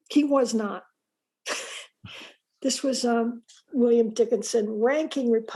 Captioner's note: laughs